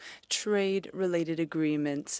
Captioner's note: speaking French